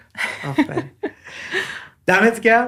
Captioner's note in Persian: خنده